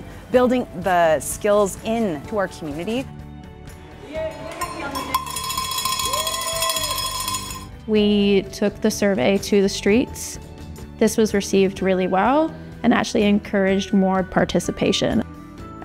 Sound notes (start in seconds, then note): 3.5 upbeat music; 4.6 metallic jangling